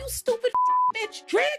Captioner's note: beep